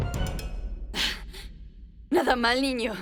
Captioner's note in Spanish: Jadea intensamente